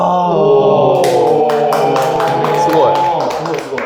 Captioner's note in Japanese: 拍手